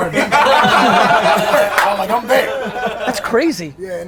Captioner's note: group laughter